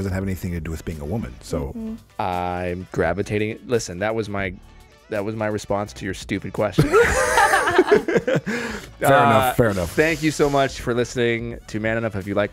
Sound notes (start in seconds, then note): 6.8 laughing